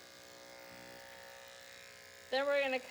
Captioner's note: buzzing noises